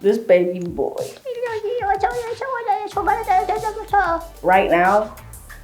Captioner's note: speaking in gibberish